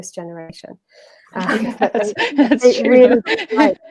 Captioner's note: laughter